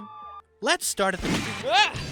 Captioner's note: gunshot